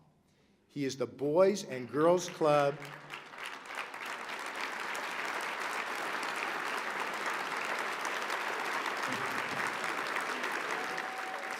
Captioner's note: applause